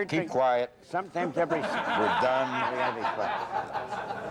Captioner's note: laughs off screen